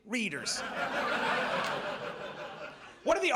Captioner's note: audience laughs